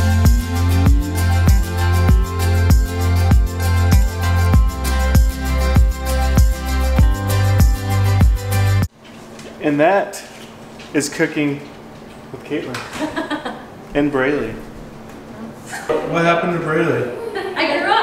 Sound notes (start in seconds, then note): 13.1 laughs